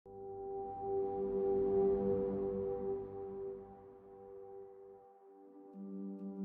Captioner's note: logo sound